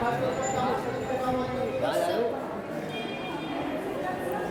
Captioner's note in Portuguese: conversas em hindi